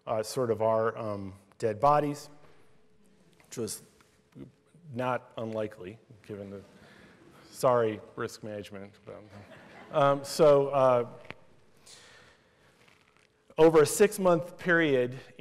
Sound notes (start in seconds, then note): 9.2 laughter